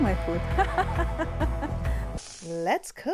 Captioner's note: laughs